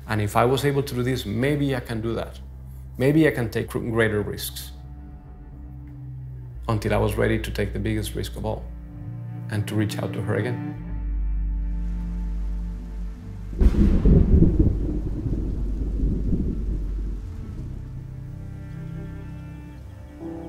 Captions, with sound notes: And if I was able to do this, maybe I can do that. Maybe I can take greater risks." Until I was ready to take the biggest risk of all and to reach out to her again. (rain pattering) (thunder rumbles) (calm music)